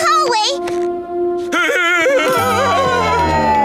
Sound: laughing

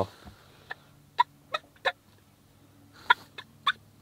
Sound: turkey call

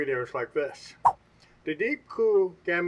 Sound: swipe sound

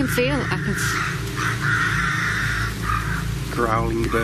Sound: bird squawks

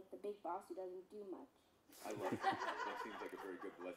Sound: laughter

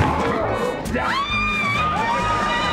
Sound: screaming

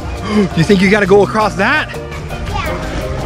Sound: gasps

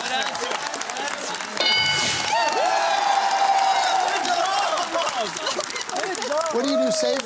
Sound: bell dings

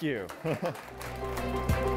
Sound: chuckles

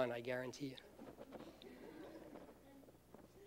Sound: laughter

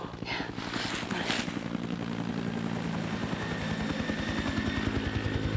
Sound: helicopter propellers whirring

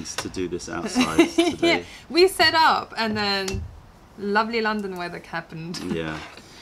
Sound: laughter

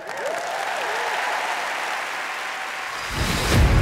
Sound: cheering

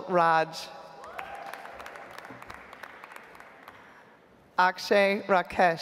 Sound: audience applauds

